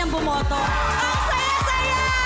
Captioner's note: audience cheering